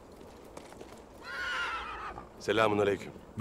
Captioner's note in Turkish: At kişneme sesi